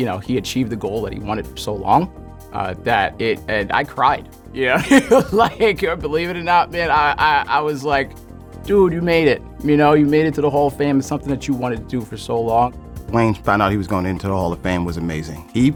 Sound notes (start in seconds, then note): 4.7 laughter